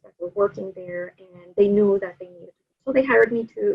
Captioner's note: audio blurs